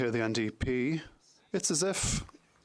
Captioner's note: speaking French